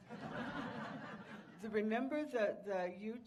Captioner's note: audience laughing